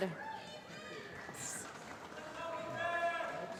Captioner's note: applause